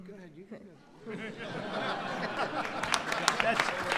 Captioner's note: laughter and applause